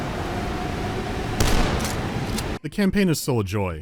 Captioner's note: bam